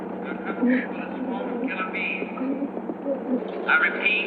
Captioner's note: bees buzzing